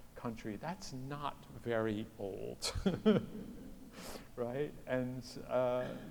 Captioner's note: laughs